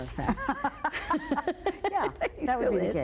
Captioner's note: both laughing